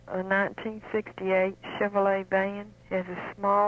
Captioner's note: radio program audio